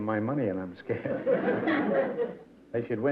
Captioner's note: laughter